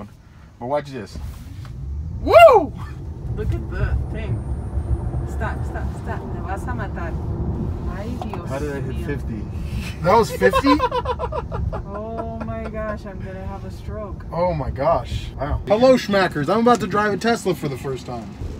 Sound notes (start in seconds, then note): 1.3 car Whirring; 10.1 all laughing